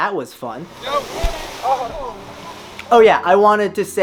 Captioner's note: overlapping chatter; engine revving